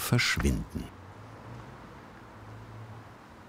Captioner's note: traffic noise